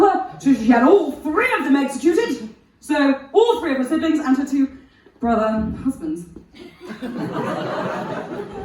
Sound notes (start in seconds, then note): 6.3 gags